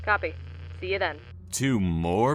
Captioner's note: radio static grows quiet